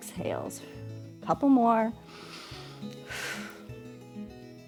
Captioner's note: inhales and exhales